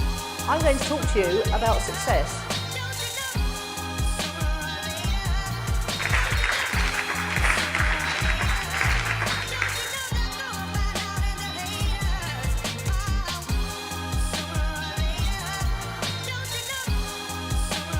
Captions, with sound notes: I'm going to talk to you about success. (upbeat music) (applause) (upbeat music)